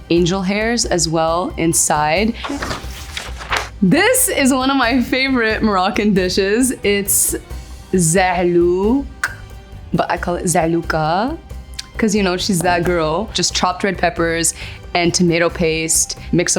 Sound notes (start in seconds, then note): 2.3 paper crinkling; 9.2 clicks tongue